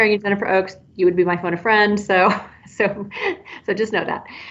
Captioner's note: chuckles